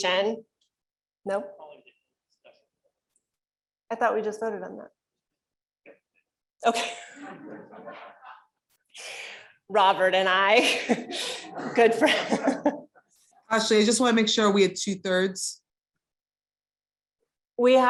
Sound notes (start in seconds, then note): 6.9 laughter